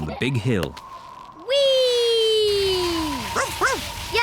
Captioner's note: wind whistling; barks